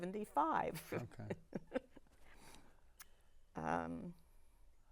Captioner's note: laughing